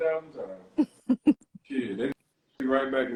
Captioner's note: laughing